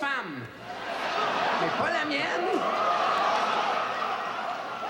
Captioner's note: audience laughs